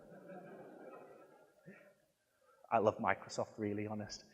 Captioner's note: audience laughing